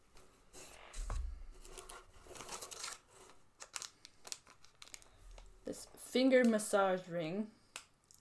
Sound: plastic-y sounds

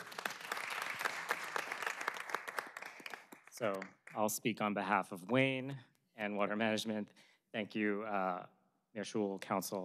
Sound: applause

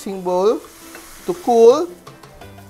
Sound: sizzling sound

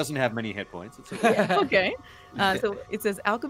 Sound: chuckling

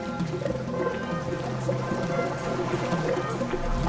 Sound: gurgling

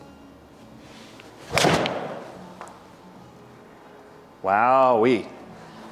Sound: golf club striking ball

